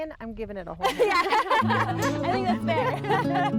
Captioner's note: laughing; serene guitar music